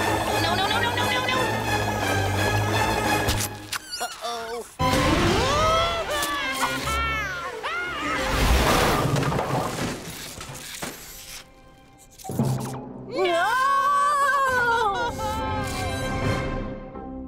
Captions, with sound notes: No, no, no, no, no, no! (suspenseful music) Uh-oh (yells). No! - No! (slow music)